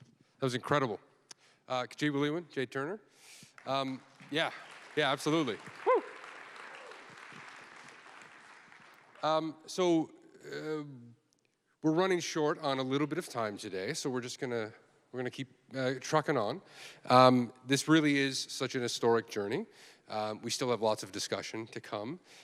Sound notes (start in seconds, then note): 3.5 applause